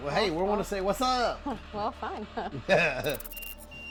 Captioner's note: laughing; EMF beeping